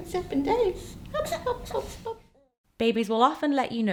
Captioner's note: giggles